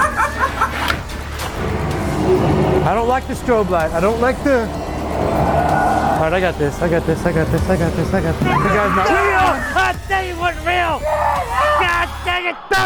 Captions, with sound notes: >> I don't like the strobe light. I don't like the... I got this I got this. I got this, I got this. That guy is not real. [Screaming] I thought he wasn't real.